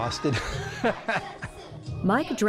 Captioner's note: laughs